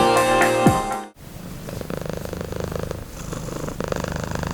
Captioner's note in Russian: мурчание кота